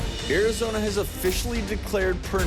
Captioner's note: Travis Stork Voiceover